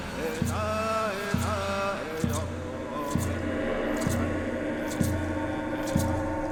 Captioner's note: chanting in Native language